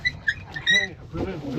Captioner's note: birds chirping